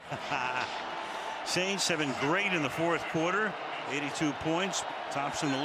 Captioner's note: laugh